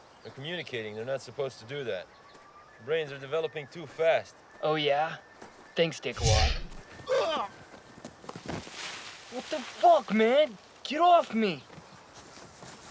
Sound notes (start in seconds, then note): 6.2 Clarke grunts; 6.2 whooshing of air